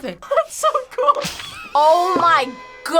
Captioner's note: laughs